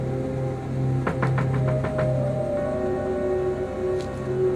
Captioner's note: knocking